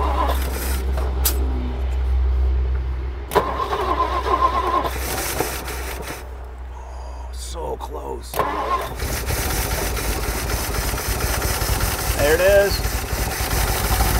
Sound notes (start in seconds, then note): 0.3 engine revving; 3.2 engine struggling to start; 8.9 engine running